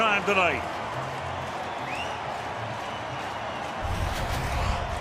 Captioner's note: cheering